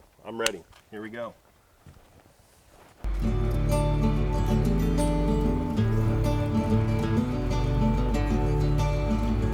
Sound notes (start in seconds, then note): 3.0 engine running; 3.0 slow guitar music